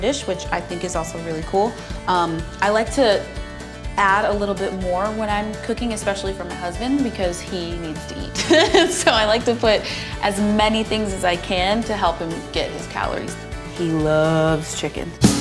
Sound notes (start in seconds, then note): 8.4 laughs